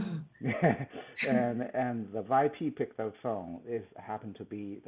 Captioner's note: laughs